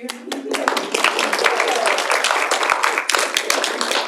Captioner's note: audience applauds